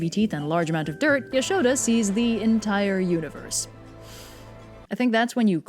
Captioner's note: inhale